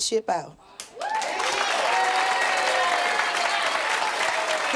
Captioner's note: audience applauding